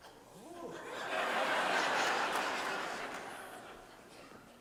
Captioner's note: audience laughs